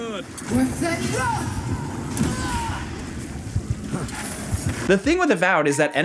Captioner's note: character shouts and groans